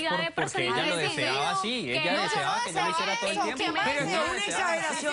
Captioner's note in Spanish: Hablan al unísono